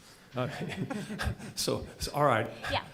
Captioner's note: chuckling